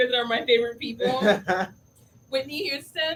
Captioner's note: laughs